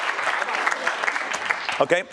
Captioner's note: applause